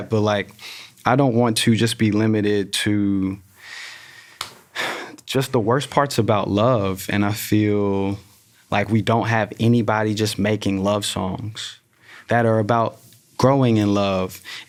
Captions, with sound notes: but like, I don't want to just be limited to [inhales sharply] [fist thudding] [sighs] just the worst parts about love. And I feel like we don't have anybody just making love songs that are about growing in love,